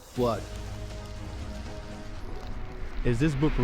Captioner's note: flames crackling; suspenseful music